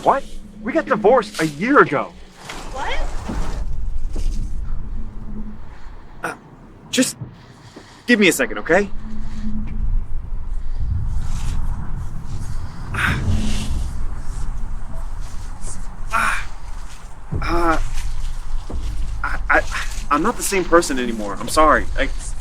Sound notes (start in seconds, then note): 9.0 pensive music; 13.1 Benz groaning